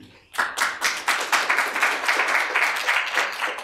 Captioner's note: applause